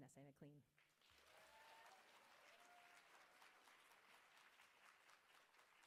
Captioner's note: audience clapping and cheering